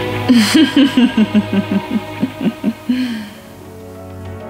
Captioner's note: laughing